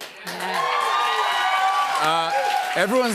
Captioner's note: cheers and applause